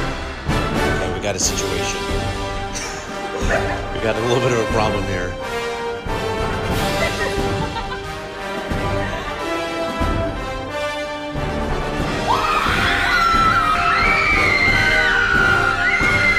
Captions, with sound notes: - Okay, we got a situation. We got a little bit of a problem here. (screaming)